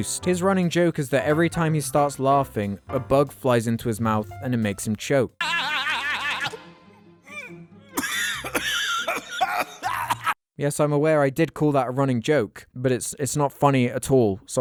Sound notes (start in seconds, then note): 5.4 laughing; 8.0 choking